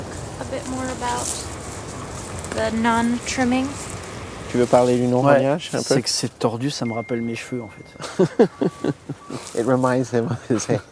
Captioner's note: speaks in French; laughing